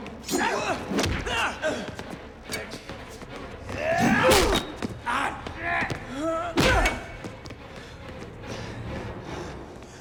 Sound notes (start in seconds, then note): 1.4 Dalton grunts; 4.0 Gammon yells; 6.5 blow thuds